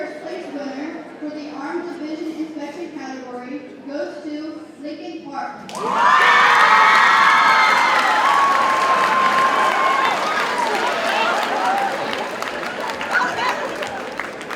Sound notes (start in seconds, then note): 5.7 audience cheers and applauds; 6.0 ambient audience chatter